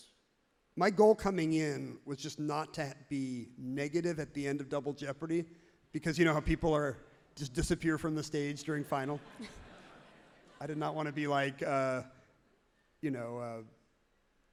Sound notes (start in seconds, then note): 9.0 everyone laughs genuinely